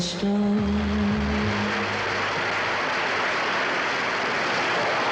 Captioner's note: audience applauds